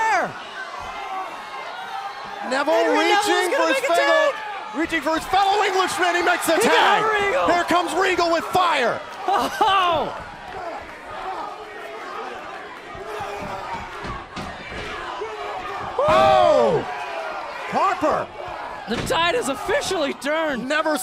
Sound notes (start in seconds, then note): 13.3 crowd cheering